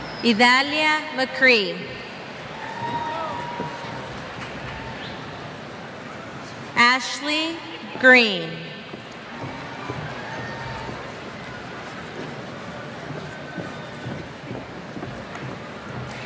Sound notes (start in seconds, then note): 2.4 cheers